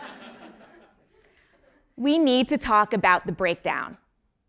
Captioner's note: laugh